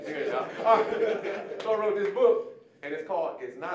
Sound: audience laughing

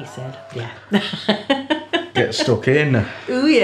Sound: laughs

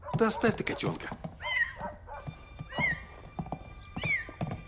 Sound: cat meaowing

